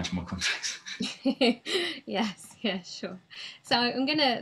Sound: laughs

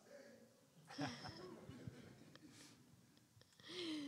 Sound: everyone laughs

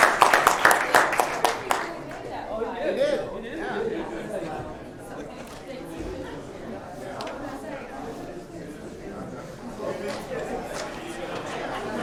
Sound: applause

